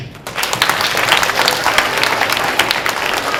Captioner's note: applause